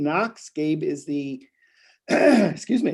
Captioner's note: clears throat